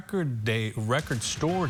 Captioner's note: hand clapping the song